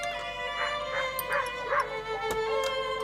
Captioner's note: dog barking